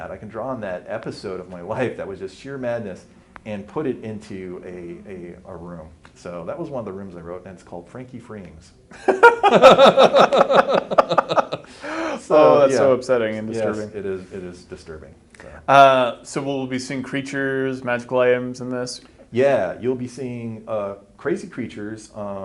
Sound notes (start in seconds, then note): 8.9 both laugh